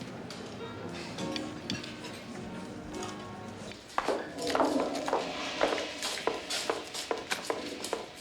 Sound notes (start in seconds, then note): 0.0 calm music; 4.7 toilet flushes